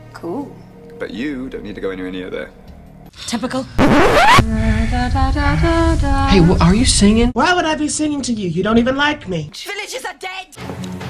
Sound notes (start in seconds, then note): 3.8 record scratch; 4.5 singing